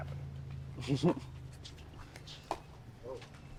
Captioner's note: chuckles